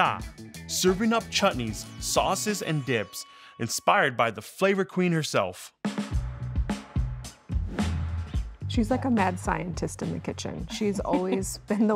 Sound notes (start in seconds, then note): 5.8 upbeat percussive music; 7.3 air whooshing